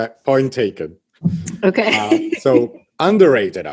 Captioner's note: laughs